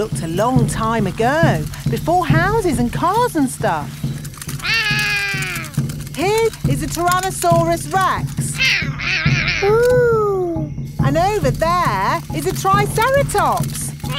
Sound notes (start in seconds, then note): 4.6 roaring; 8.6 roaring